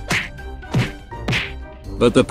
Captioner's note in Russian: удар x8; удар x10; удар x9